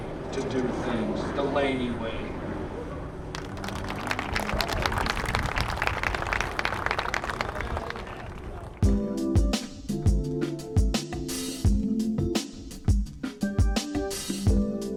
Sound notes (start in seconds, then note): 3.3 applause; 8.8 gentle music